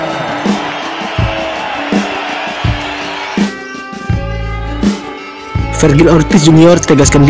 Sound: applause

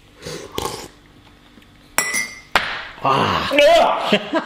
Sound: both slurp

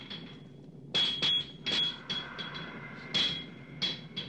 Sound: banging

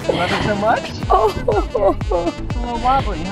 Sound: chuckling

